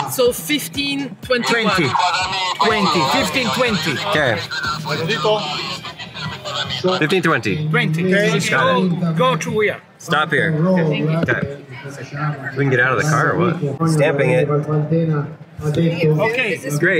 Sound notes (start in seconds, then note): 5.2 official speaking in Italian